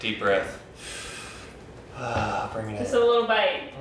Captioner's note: deep inhale; deep exhale